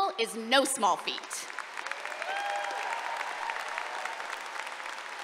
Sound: applause and cheering

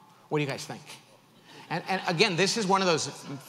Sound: audience laughs

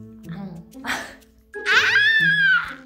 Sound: laugh

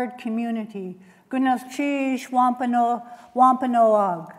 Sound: non-english speech

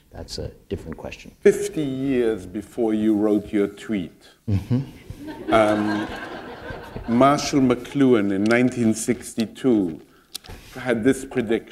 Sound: laughter

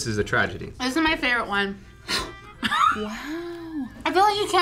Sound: gasps

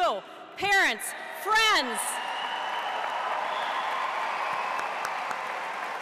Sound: audience cheering

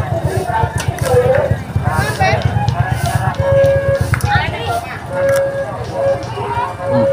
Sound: clap; clap

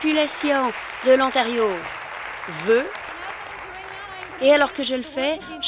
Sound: applause

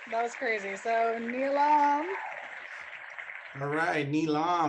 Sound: clapping hands

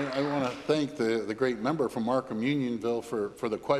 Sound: applause

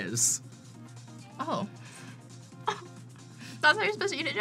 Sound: laughs

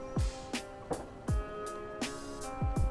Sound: loud bang in the background

